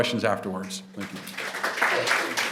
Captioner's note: applause